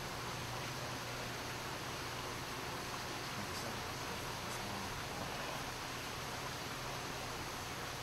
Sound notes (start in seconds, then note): 4.7 whispering